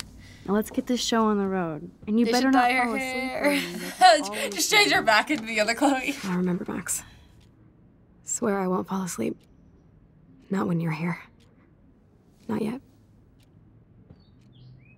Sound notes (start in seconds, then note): 2.5 laughs